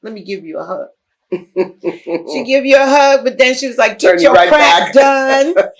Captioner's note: laughter